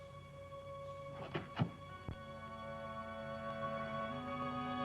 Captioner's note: door latch thuds